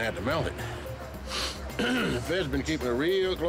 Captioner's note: inhales, clears throat